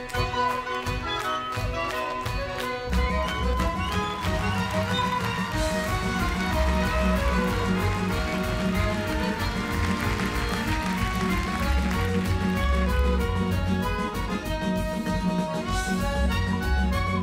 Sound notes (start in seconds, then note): 8.1 crowd cheers and clap; 12.8 ukrainian folk music